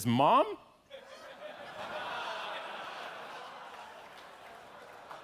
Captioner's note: audience laughing